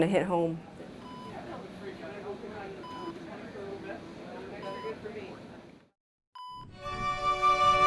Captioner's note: machine beeping